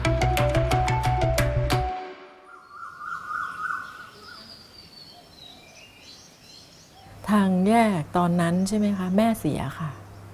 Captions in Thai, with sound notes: [เสียงนกร้อง] ทางแยกตอนนั้นใช่ไหมคะ แม่เสียค่ะ